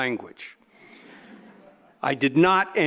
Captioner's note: audience laughing